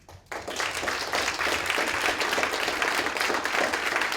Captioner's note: applause